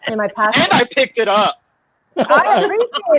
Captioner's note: laughing